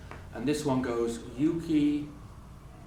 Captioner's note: speaking japanese